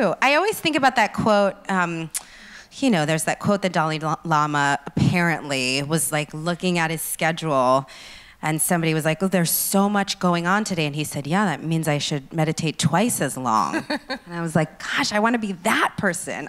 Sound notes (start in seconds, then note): 13.7 laughs